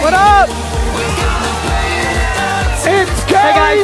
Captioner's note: audience cheering